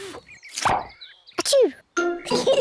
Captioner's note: sneezes; both giggle